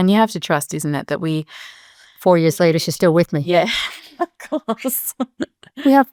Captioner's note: laughs